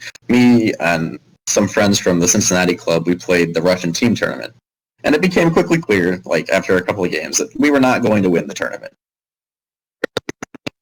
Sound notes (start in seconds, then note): 8.7 static